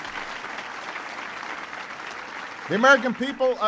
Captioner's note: applause